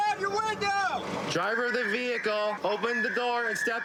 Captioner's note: using loudspeaker